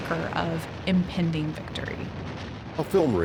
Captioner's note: gunfire